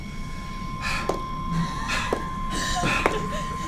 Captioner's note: sighs